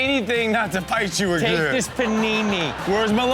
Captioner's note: audience laughs